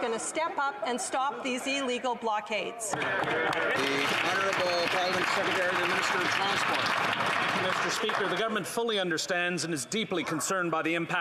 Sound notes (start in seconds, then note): 6.9 applause